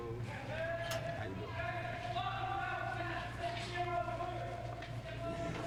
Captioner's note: background chatter